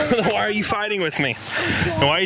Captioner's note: laugh